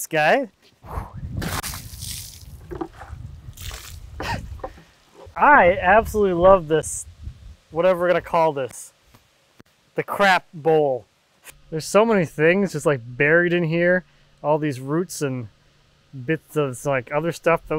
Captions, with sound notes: Let's take a look at this guy. (water splashes) I absolutely love this, whatever we're gonna call this. The crap bowl. There's so many things just buried in here. All these roots and bits of, like, other stuff